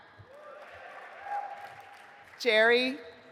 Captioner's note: audience applauding